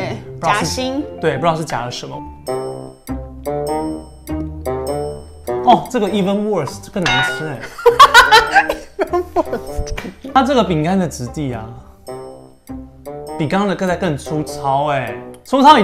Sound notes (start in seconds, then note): 7.7 laughing bitterly and wanting to cry